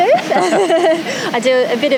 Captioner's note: both laughing